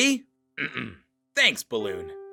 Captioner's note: clears throat